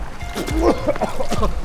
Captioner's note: coughing